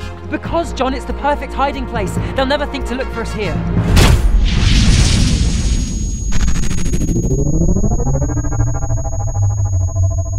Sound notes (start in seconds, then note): 3.9 explosion; 6.4 sound Of Portal Opening